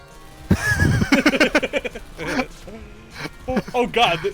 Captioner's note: both laughing